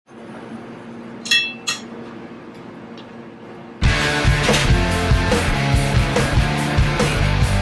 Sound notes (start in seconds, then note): 1.0 barista noises